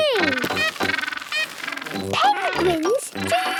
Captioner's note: honking